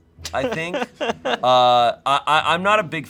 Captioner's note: laughs